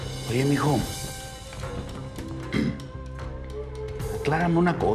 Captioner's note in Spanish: carraspea